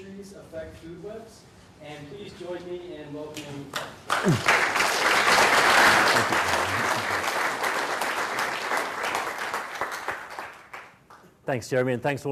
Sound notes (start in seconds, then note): 8.5 applause